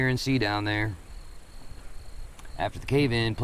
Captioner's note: insects chittering